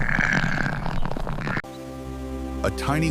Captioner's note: snorts